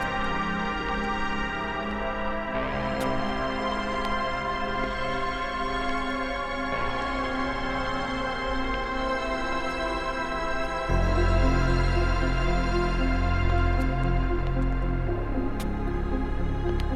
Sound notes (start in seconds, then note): 3.3 footsteps tapping; 4.2 dramatic music; 14.8 footsteps tapping